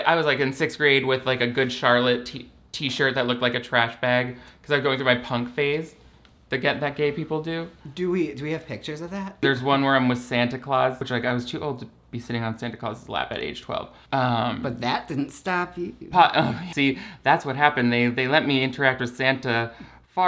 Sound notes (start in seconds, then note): 16.0 laughs